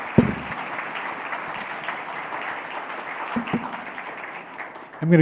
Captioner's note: applause